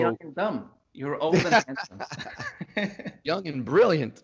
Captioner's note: both laugh